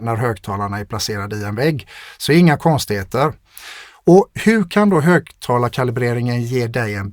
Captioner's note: scoffs